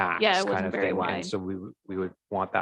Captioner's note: murmurs